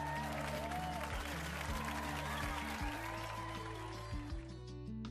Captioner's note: applause, crowd cheering